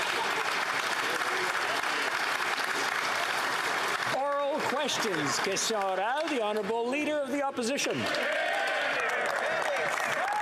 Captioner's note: applause